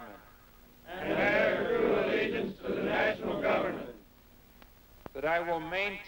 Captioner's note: repeating in unison